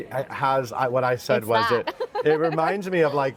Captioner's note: laughing